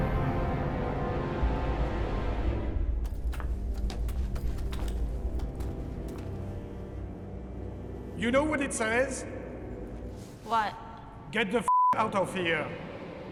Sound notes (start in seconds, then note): none